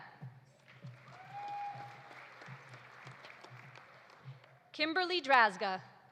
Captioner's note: audience applauding; audience cheering